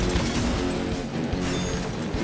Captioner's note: loud smash